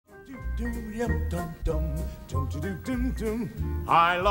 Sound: vocalizes

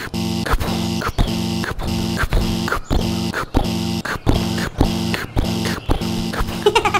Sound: pounding footsteps

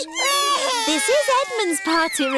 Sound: babies crying

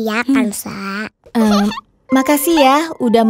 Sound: laughing

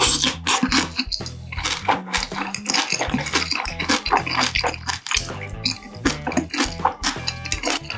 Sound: crying

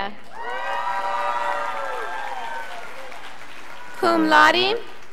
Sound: scholars applauding

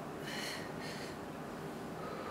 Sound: breathing heavily

